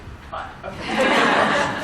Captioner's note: laughter